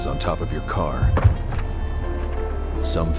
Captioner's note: thumps of briefcase